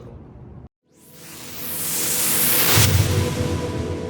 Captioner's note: whooshing